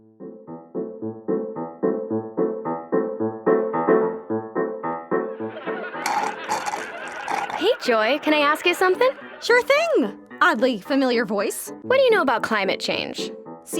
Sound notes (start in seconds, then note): 0.1 upbeat whimsical music; 5.4 TV audience laughing